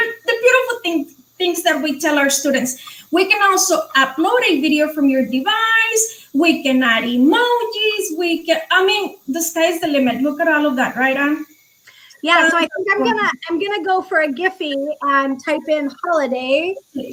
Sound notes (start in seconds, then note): 10.5 speaking foreign language